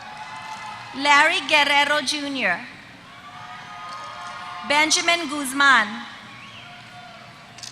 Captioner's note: applause; applause